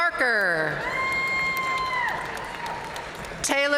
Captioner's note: audience cheering and applauding